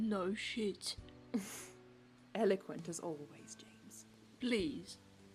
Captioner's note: Regulus snorts